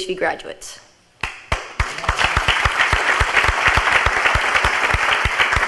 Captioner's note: audience applauds